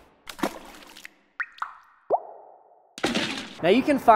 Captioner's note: splashing